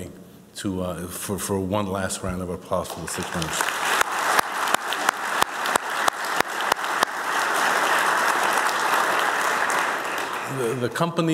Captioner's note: applause